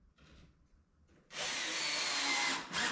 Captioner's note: drill whirring